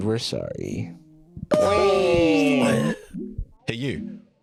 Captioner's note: gun/Force-choking sounds